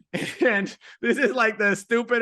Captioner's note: laughing